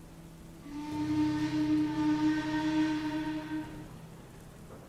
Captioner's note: adam whistles